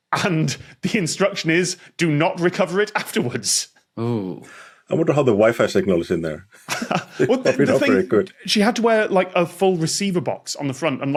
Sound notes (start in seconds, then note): 3.9 shudders; 6.6 chuckles